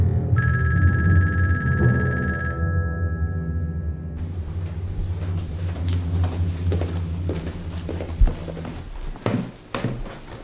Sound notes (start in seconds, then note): 0.4 phone continues ringing; 6.0 footsteps pattering